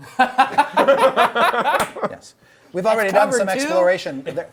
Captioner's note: group laughs